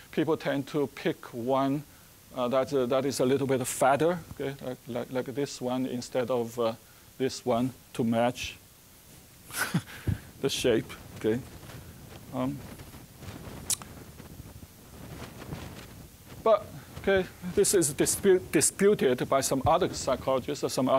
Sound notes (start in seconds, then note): 9.5 chuckling